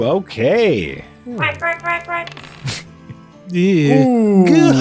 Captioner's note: makes “quacking” sounds